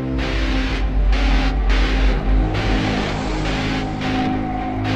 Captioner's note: Petee yelling